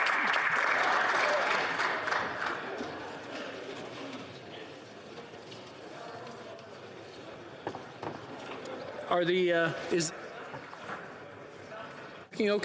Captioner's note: some Applause